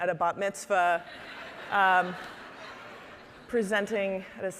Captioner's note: audience laughing